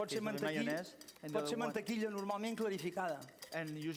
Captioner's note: non-english speech